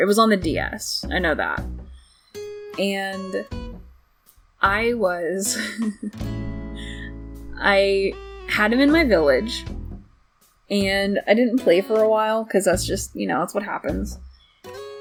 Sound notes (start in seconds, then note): 5.5 awkward laughing